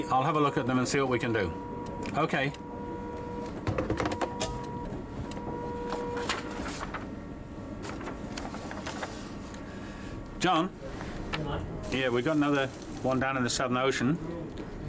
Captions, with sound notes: I'll have a look at them and see what we can do. Okay. [printer whirring] John. - Yeah, Mike? - Yeah, we got another one down in the Southern Ocean.